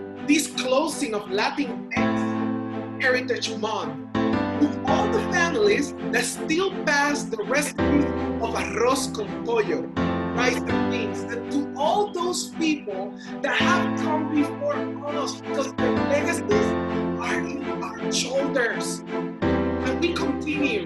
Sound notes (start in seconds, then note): 0.0 keyboard music; 7.5 speaks in Spanish; 15.7 speaks in Spanish; 19.4 keyboard music